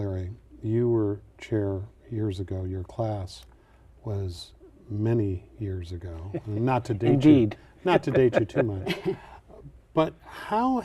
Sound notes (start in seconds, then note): 7.8 laughter